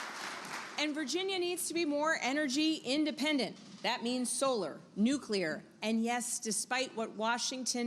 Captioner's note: applause